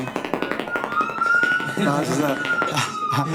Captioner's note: footsteps clicking rapidly